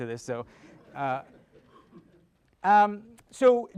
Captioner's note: audience laughing